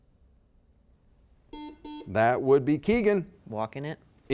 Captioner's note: buzzer beeps